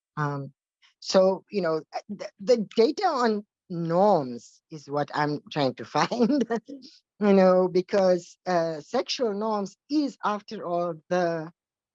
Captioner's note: chuckle